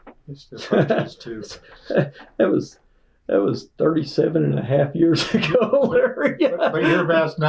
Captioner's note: laughter